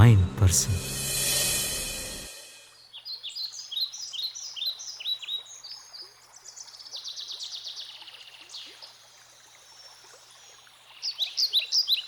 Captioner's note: birds chirping